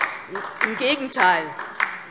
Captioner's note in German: Beifall DIE LINKE